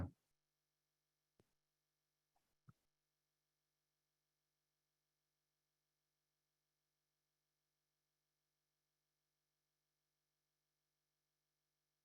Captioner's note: silence